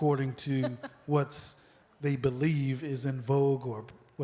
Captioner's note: laughter